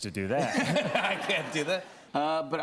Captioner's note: laughter